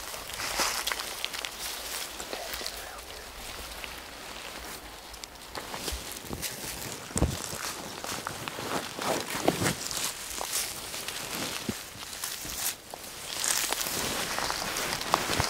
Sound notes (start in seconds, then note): 0.0 moving through grass/leaves